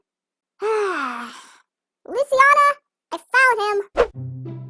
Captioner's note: sighs